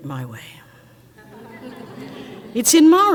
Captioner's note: crowd laughs